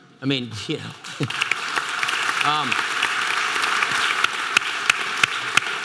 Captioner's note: audience applause